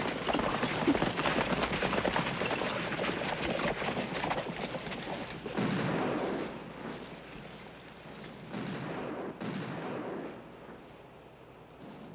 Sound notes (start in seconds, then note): 5.2 gunfire in background